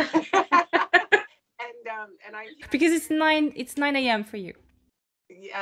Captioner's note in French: rires